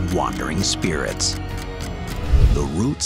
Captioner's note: clock ticking